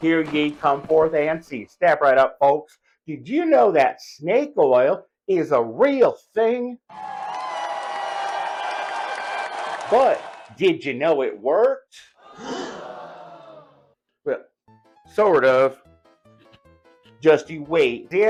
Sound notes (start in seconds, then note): 6.9 crows Cheers; 12.2 crowd Boos